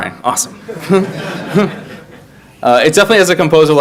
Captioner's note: audience laugh